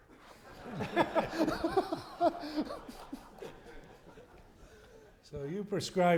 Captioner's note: laughter